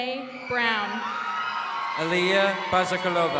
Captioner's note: crowd cheering